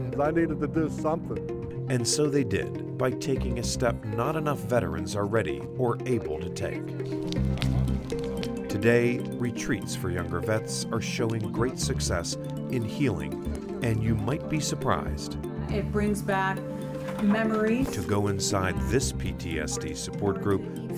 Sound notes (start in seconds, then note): 7.1 group chattering; 7.1 soft upbeat music